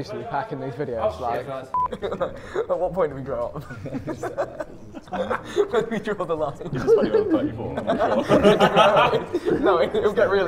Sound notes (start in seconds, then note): 4.4 Sidemen chatting and laughing